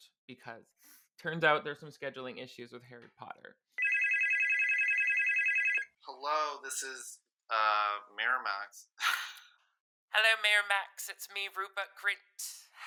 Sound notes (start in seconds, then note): 3.8 phone ringing; 6.3 voice distorted over phone; 10.3 British accent